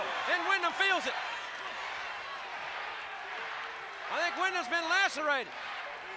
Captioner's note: applause